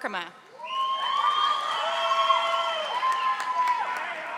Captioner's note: audience applauding